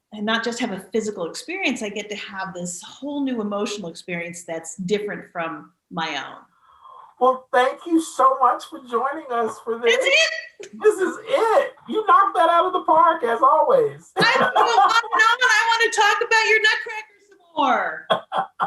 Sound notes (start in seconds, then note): 14.6 laughing; 18.1 laughing